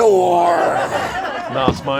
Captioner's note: audience laughs